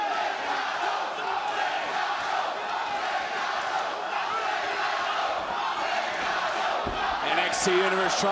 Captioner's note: crowd chants